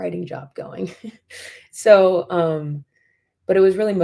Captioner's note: laughter